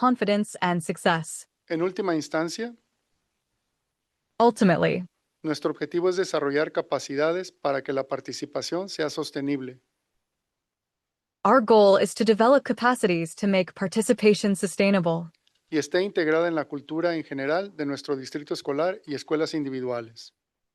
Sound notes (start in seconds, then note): 2.0 non-english speech; 5.8 non-english speech; 16.1 non-english speech